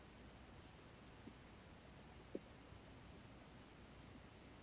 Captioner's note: mouse clicking